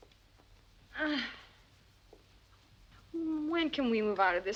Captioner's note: Brigitte groans